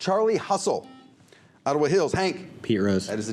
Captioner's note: buzzer